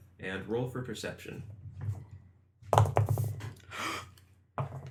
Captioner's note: dice rolls